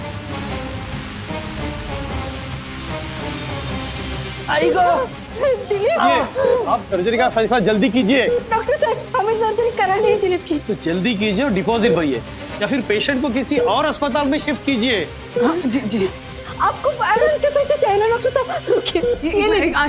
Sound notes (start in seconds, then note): 0.3 intense music; 5.3 Asha sobbing